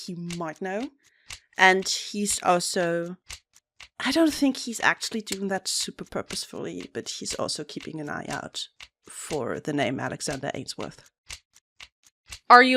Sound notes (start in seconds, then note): none